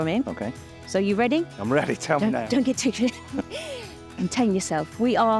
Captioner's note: chuckling